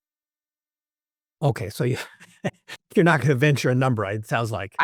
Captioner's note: laugh